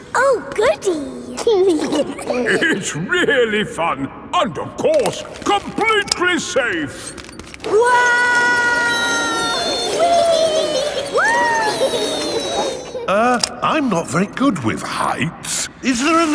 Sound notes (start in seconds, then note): 1.4 giggling; 8.2 all yelling